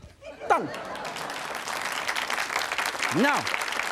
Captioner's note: audience applauds